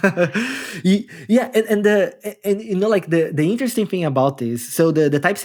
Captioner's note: laughing